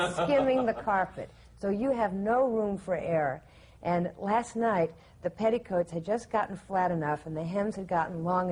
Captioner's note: laughter